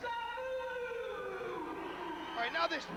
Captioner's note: crowd cheering